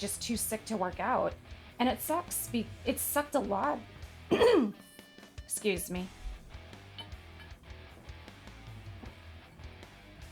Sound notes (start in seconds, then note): 4.3 clears throat